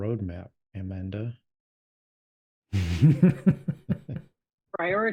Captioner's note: both laugh